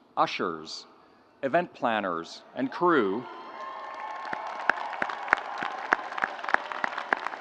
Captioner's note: audience cheering